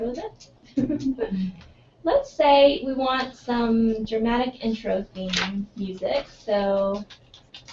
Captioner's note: laugh